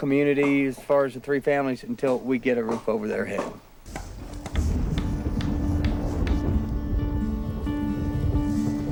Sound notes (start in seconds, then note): 3.8 thunder rumbling